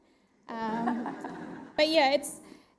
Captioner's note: audience laughs